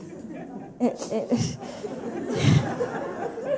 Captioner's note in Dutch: gelach